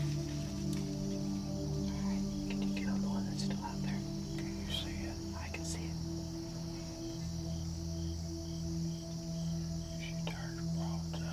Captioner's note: whispering